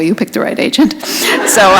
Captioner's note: laughter